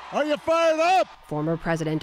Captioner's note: cheering